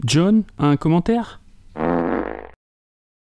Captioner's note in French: bruit de pet